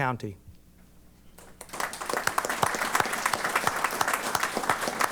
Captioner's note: applause